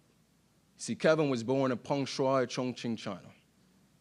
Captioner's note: speaking in Chinese